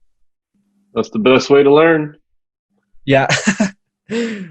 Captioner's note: laughs